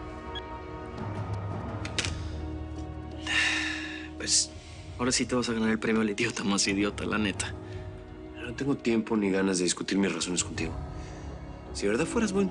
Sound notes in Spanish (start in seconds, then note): 3.2 Pablo suspira